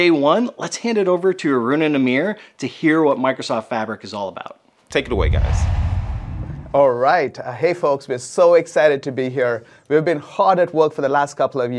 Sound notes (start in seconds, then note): 4.9 logo swooshes